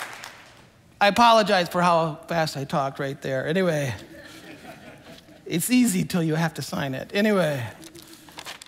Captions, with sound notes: I apologize for how fast I talked right there anyway. (congregation laughing) It's easy till you have to sign it anyway,